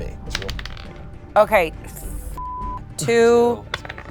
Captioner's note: beep